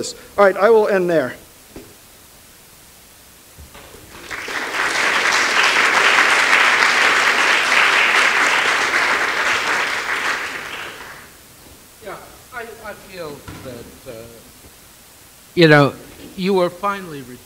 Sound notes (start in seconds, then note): 4.0 applause